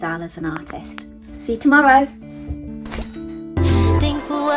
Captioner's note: bell chiming